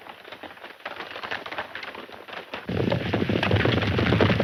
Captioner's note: horses galloping